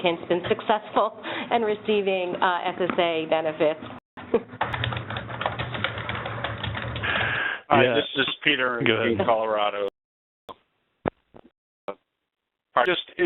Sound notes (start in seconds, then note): 4.6 keyboard clicking